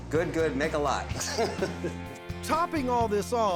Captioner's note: laughing